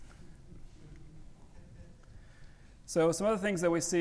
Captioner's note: audience chuckling